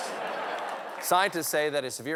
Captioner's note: laughter